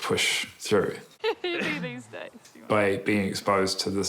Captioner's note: laughs